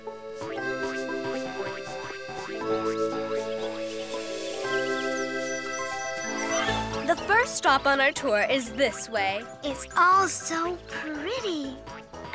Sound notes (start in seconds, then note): 0.1 gentle music; 5.3 birds chirping